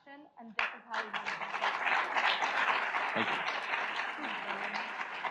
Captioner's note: audience applauds